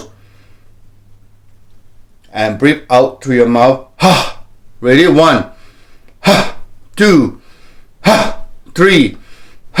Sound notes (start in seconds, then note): 0.0 inhales; 5.5 exhales